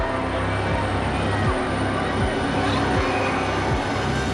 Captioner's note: panicked screaming